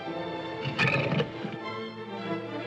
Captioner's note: sentimental music; leopard growls; dramatic music